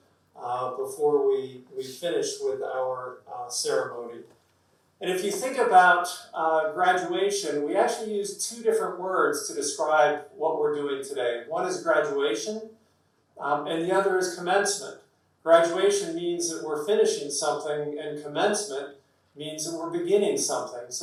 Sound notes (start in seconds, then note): none